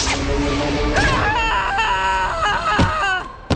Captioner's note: screaming